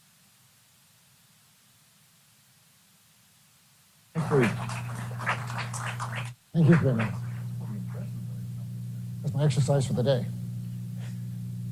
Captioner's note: applause